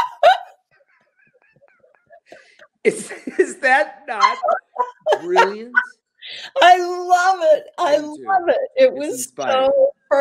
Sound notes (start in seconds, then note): 4.2 laughter